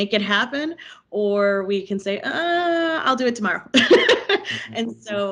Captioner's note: laughing